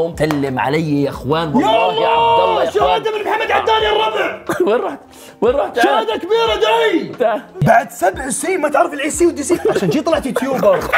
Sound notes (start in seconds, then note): 4.4 chuckles